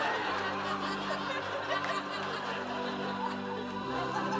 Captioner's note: laughter